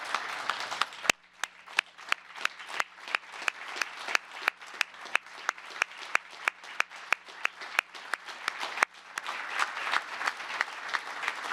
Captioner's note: applause